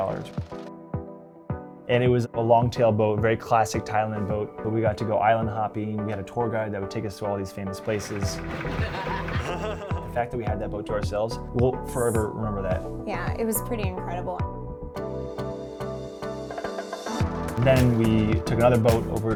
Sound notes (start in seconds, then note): 8.2 boat motor rumbling; 8.4 laughing; 14.7 upbeat music